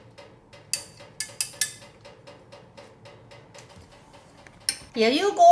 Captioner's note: china clinking